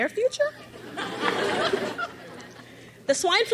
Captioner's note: crowd laughs